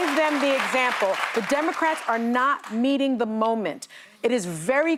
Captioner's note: applause